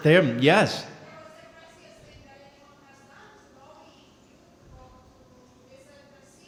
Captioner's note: speaking softly